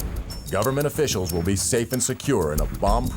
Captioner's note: explosion booming